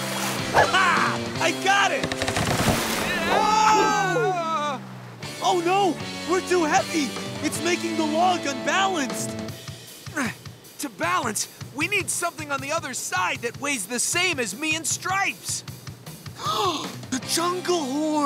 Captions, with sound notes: Ah-hah! I got it! [screaming] Oh, no! We're too heavy! It's making the log unbalanced! [straining] To balance, we need something on the other side that weighs the same as me and Stripes. [gasps] The Jungle Horn!